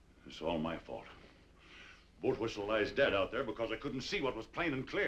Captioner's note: none